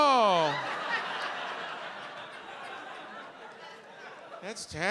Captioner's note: audience laughs